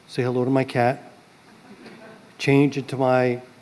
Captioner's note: laughter